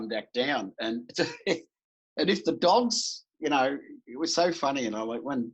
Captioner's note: laughs